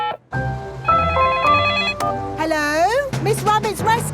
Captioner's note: beeping; phone ringing